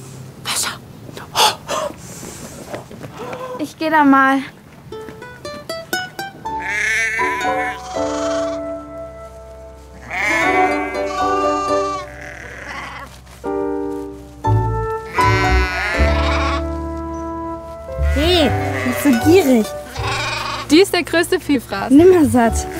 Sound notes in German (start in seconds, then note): 4.8 Sanfte Gitarrenklänge; 6.6 Blöken; 10.0 Mehrfaches Blöken